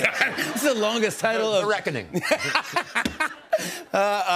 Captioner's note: laughs